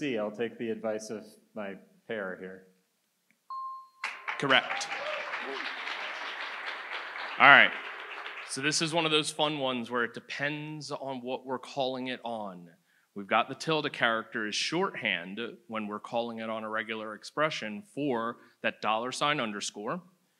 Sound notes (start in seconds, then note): 4.0 audience applauds